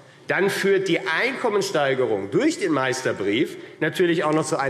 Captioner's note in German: none